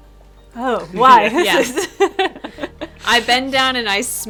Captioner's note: laughs